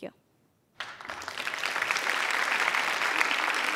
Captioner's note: applause